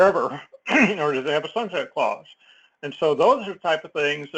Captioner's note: cough